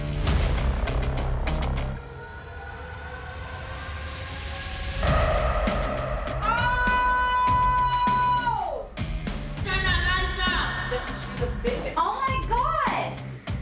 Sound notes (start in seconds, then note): 1.5 keys jingling; 1.9 suspenseful music plays; 5.0 inmate screams